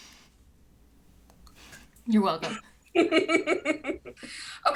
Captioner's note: laughs